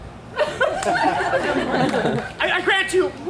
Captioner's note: audience laughs